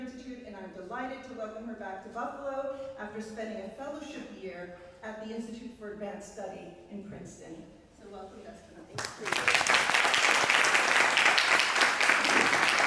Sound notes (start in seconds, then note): 8.9 applause